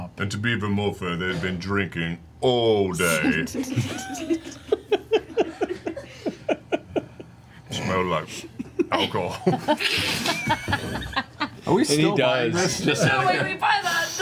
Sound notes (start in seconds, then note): 8.6 all laugh